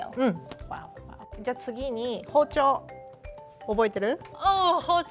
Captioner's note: speaking Japanese